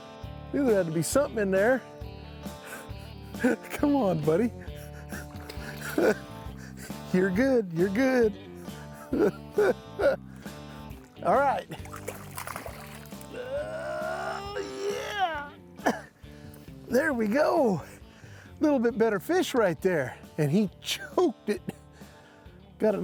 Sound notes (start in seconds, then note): 8.8 chuckling; 13.2 grunting